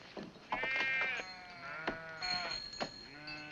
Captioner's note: sheep baa